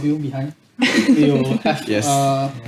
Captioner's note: laughs